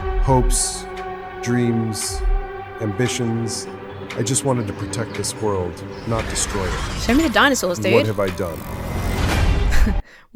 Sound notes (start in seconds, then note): 6.0 dinosaur screeches; 9.2 orchestra stabs; 9.7 chuckles